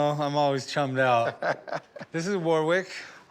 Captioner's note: laughs